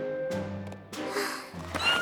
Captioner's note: sighs; squeals